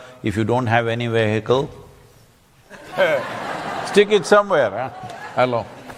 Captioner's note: laughter